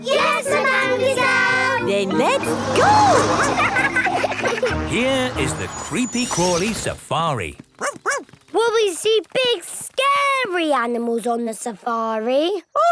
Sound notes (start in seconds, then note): 2.8 laughing